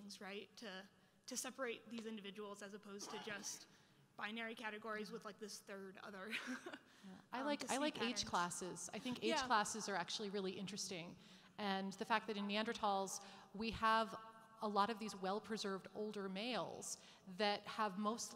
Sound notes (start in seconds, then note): 6.5 laughs